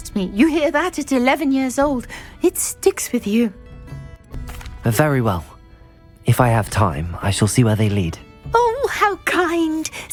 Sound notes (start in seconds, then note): none